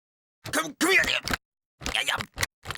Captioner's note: grunting